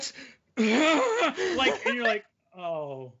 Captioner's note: groaning